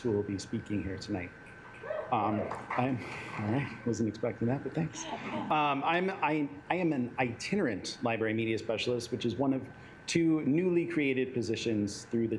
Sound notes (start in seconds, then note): 1.7 assembly cheering; 5.0 assembly laughing